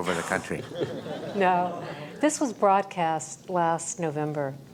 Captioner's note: laugh